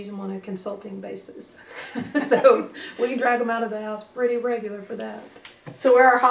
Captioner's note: laughter